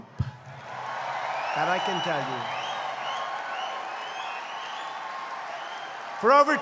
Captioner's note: applause